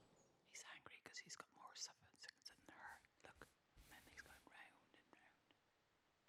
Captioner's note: whispering